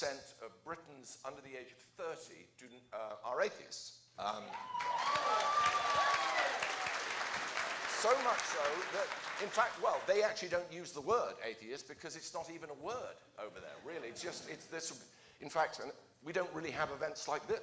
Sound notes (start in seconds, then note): 4.4 applause